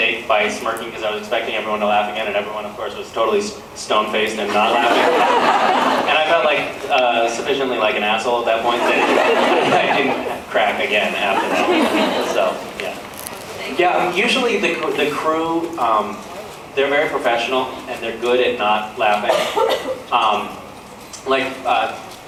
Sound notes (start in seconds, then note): 4.5 laughs; 8.6 laughs